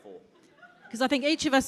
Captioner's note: audience laughs